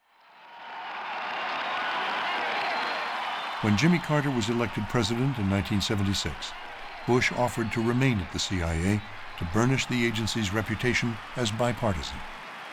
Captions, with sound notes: (audience cheering and applauding) When Jimmy Carter was elected president in 1976, Bush offered to remain at the C.I.A. to burnish the agency's reputation as bipartisan.